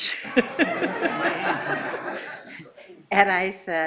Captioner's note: laughing